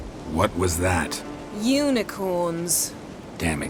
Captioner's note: flatly